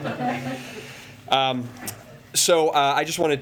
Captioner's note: laughter